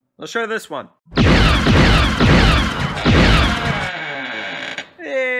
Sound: door creak

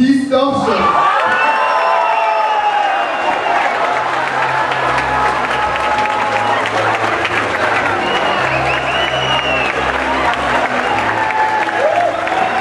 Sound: applause

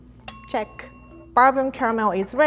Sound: bell ringing

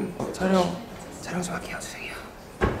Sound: whisper

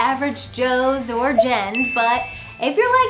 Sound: graphics blip and ding

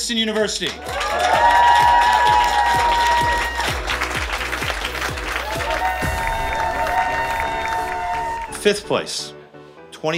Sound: applause

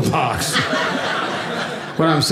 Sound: audience laughing

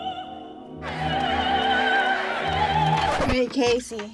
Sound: crowd chanting

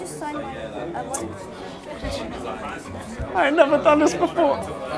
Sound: murmuring

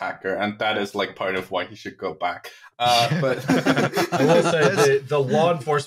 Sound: laughter

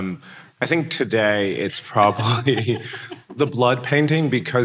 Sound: laughing

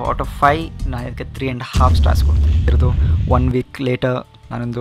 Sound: boom

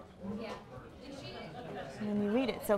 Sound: crowd noises in background

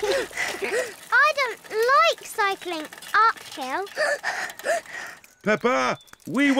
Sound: blows raspberry and giggles; panting

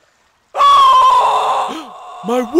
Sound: screams

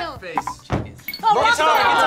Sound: feet stomping

